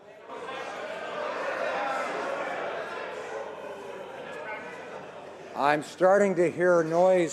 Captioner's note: some Applause